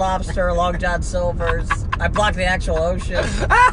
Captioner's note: laughing